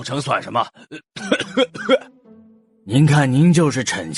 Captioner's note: coughs